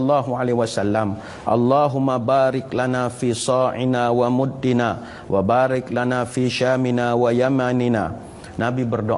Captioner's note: arabic recitation